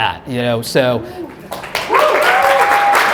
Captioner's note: applause